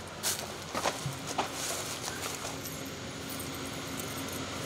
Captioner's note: engine revving